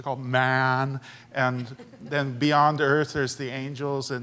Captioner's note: laughter